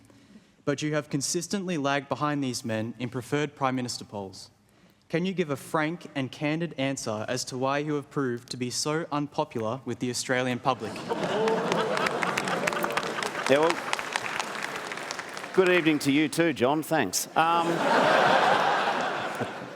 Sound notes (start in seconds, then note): 10.8 laughter; 11.0 applause; 17.3 laughter